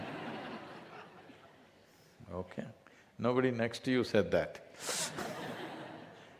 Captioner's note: laughter; laughter